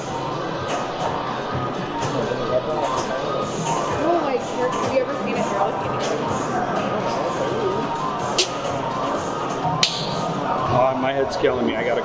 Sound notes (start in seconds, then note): 0.1 light upbeat game music; 5.9 speaks faintly